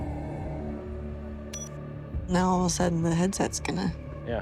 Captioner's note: beeps